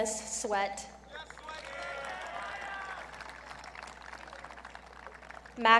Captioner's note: audience cheering